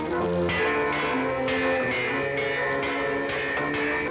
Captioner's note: bell clanging